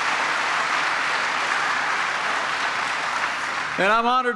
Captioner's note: applause